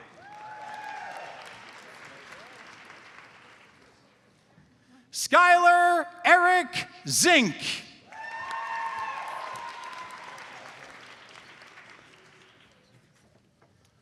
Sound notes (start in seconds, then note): 0.0 audience applauds; 8.0 audience cheers and applauds